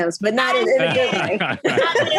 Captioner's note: all laughing